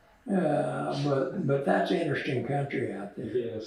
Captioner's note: laughs